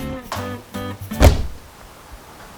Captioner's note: body hits floor